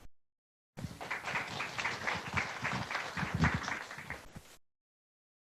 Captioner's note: audience applauding